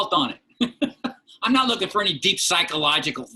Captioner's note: laughter